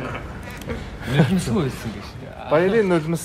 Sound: laughs

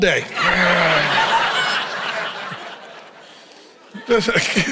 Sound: congregation chuckles

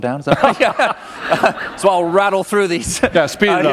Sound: laughter

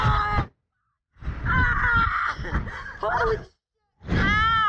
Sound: riders screaming

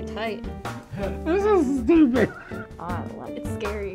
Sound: laughs

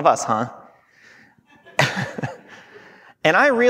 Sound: chuckling

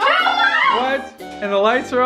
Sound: screaming

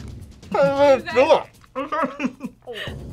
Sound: laughs; laughs

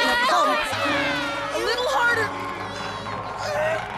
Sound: arguing

